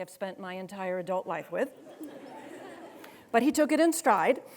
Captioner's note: students laughing